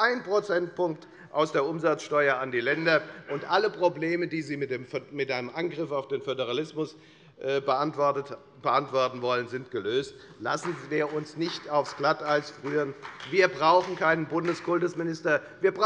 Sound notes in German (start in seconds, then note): 12.4 Beifall bei der FDP